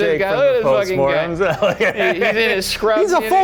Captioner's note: Shane laughing